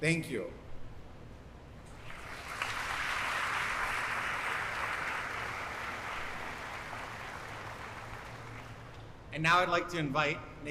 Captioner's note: applause